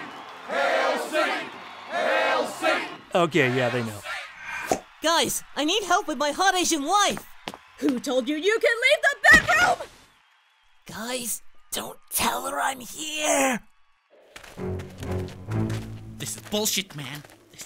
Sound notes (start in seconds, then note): 4.5 pop!; 11.5 whispering